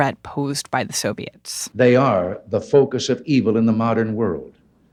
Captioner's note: soundbite of archived recording